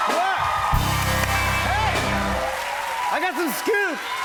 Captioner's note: cheers and applause